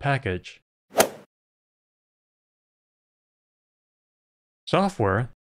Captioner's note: golf ball hit sound